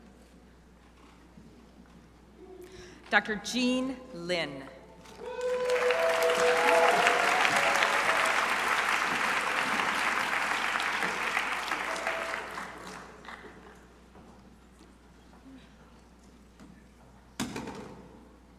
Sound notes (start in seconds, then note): 5.0 crowd applauding